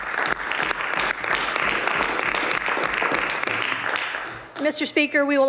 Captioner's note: some Applause